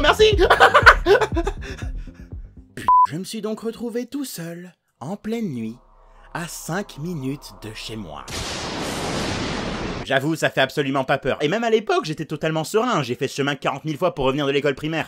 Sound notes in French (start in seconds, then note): 0.4 rires énervés; 2.8 bip